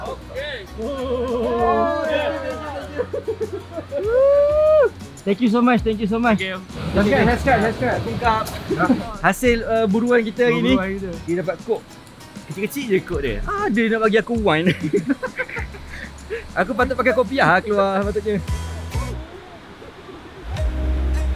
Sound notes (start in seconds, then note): 8.1 speaking Vietnamese; 14.4 laugh